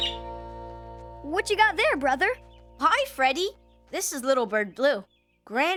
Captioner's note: blue chirping